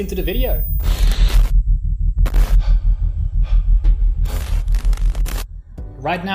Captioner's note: dramatic music; person panting